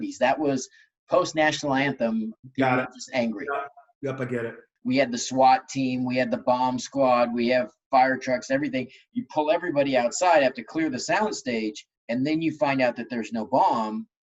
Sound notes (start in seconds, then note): 4.0 murmurs